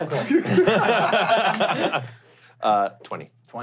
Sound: laughing

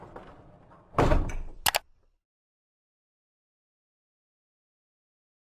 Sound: computer mouse clicking

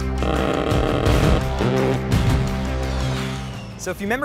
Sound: gun buzzing

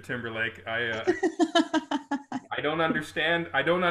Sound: group laughing

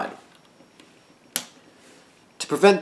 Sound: snap

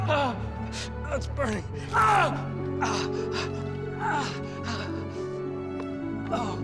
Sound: heavy breathing

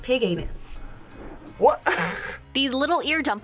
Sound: laughs

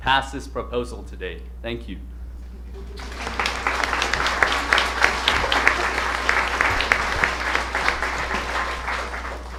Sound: applause

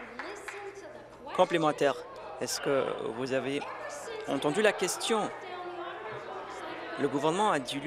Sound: applause

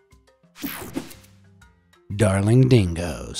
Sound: air whooshing

